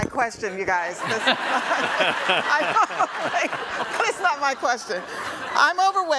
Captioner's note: audience laughs